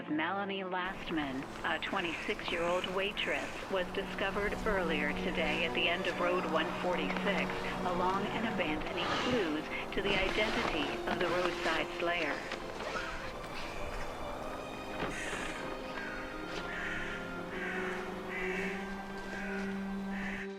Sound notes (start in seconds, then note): 13.3 dramatic music; 16.1 birds chirping; 18.4 dramatic music